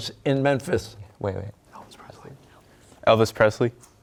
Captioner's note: whispering